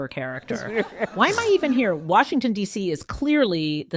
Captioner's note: laughing